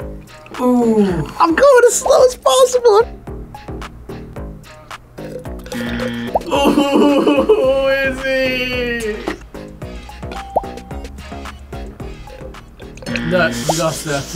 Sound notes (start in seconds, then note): 5.2 slurps; 5.8 buzzer; 9.7 ding; 13.1 buzzer